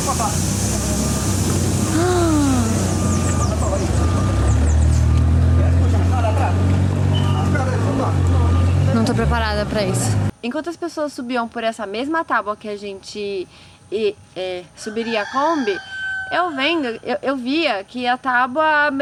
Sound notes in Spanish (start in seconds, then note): 14.8 gallo cantando de fondo